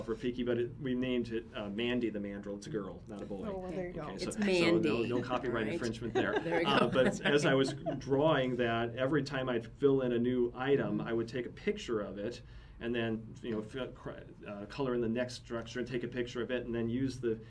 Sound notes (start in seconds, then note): 5.7 laughs